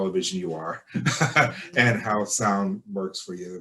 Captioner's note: laughter